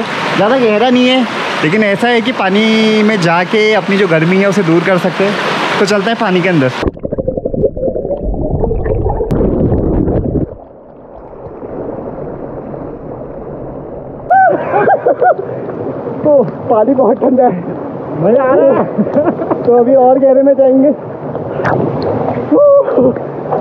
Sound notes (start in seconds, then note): 14.2 screaming in cold water